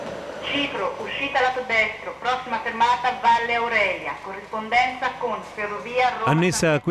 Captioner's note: automated announcements